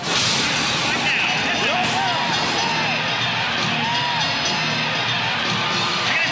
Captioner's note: crowd cheers